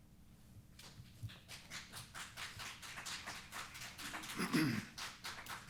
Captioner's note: applause